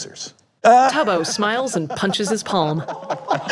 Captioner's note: laughing